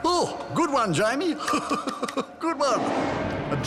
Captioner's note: laughs